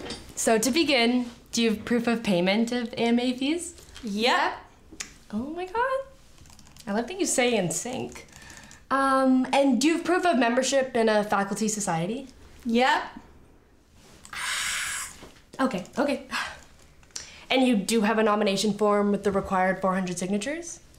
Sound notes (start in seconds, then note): 14.2 whisper yells; 14.2 exhales